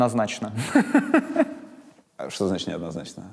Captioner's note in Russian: смеется